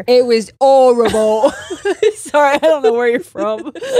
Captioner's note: all laughing